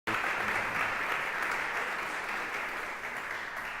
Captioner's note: applause